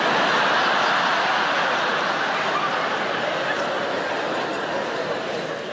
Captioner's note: audience laughing